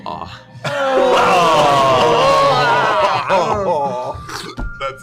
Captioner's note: disgusted groaning